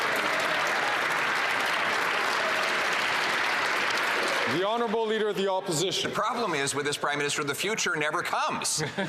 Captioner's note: some Applause